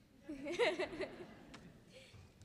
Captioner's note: laughing